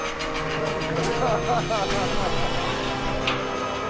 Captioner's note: chuckles